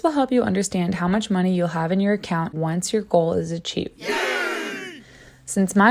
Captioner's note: cheering sound